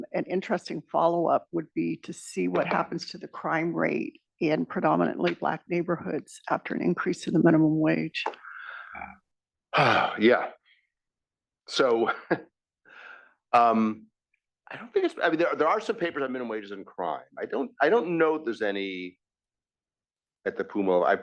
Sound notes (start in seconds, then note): 11.8 laugh